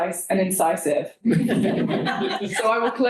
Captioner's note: laughter